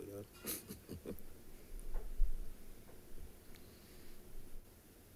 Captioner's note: chuckling